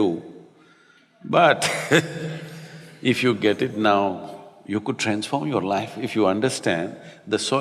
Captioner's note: laughs